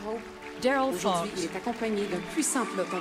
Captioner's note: speaking French